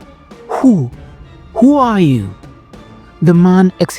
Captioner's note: whispering, Unsteady